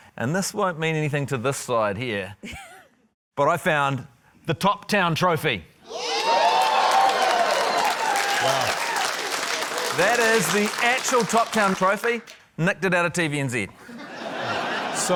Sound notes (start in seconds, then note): 2.4 laughs; 5.9 cheering, applause; 13.8 laughter